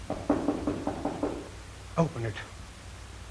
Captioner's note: knocking on door